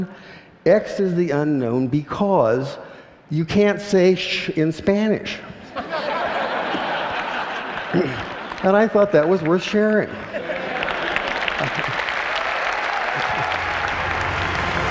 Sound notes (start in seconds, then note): 5.6 laughter; 10.2 applause